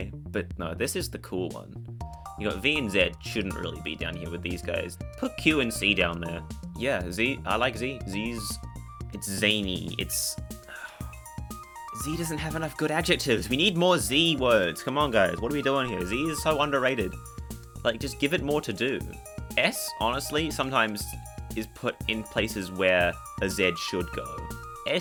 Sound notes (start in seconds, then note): 10.6 sigh